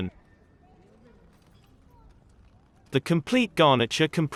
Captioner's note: people chattering